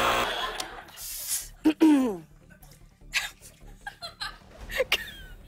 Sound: buzzer; clears throat; laughs

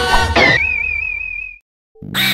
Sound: SM64 painting exit sound

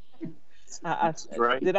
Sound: members laughing

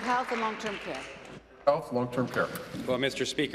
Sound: applause

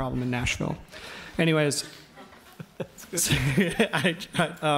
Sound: audience laughs

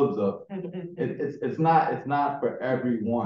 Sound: chuckling

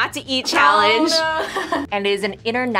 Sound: laughs

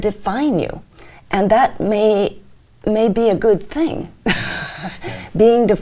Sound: chuckles

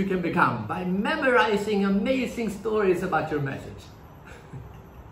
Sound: laughs

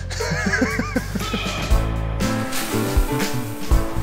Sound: laughing

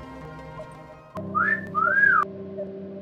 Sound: whistles

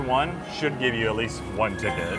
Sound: screen chiming

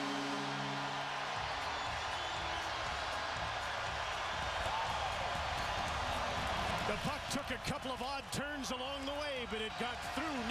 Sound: cheers and applause

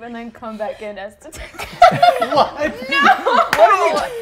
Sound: laughs

